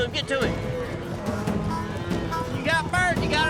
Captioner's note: mooing